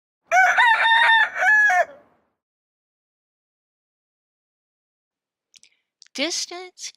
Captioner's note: rooster Crowing